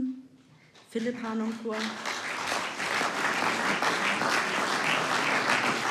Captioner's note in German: Applaus